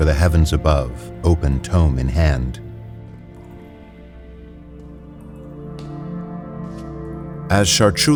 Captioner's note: sounds of dripping water in a stone room